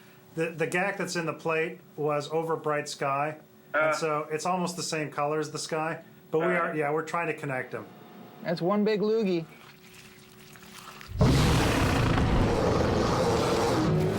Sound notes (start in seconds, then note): 11.1 roaring